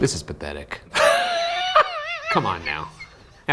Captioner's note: laughs